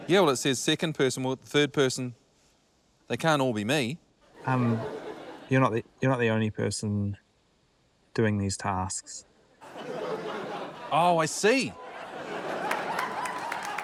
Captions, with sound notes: - Yeah, well, it says second person or third person. They can't all be me. - Um, you're not the only person... - doing these tasks. - (LAUGHTER) - Oh, I see. - (LAUGHTER, APPLAUSE)